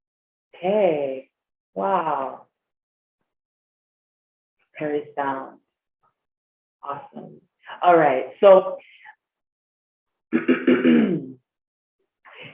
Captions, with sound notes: Hey, wow, great stuff, awesome. All right, so (clears throat)